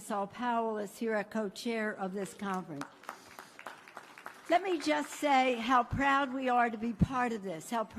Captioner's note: applause